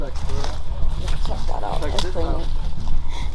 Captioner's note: rustling leaves